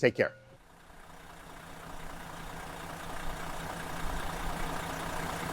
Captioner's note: car engine roaring